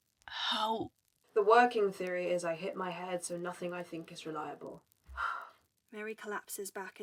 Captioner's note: Mary sighs